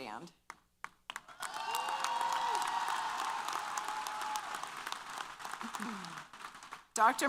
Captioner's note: applause & Cheers